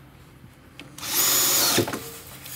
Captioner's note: drilling noises